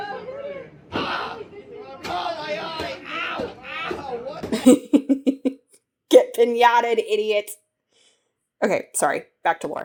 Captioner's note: laughs